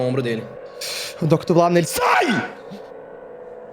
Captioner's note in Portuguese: gritando